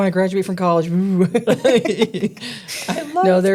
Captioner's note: laughing